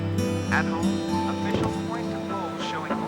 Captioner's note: man on radio